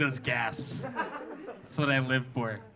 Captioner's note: audience laughing